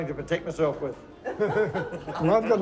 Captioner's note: laughs